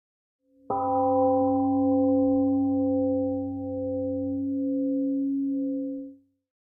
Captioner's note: temple gong rings and fades